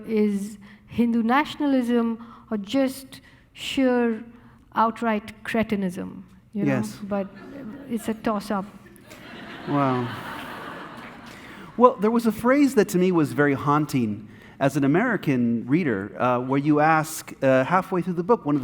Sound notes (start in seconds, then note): 9.0 audience laughing